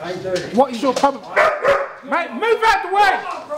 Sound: dog barks

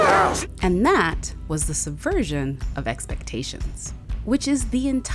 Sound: voiceover

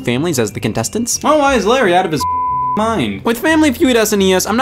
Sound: beeping

